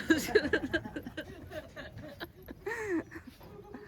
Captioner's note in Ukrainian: сміх